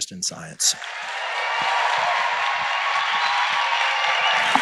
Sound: applause

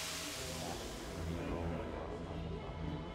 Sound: chatter

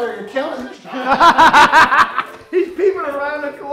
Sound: laughs

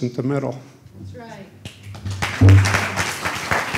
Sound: applause

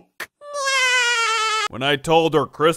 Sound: laughs

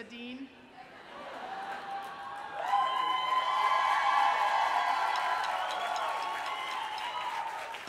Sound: cheering

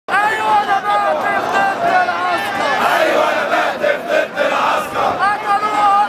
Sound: chants

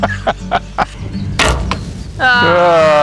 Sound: guide laughs; arrow thwacks

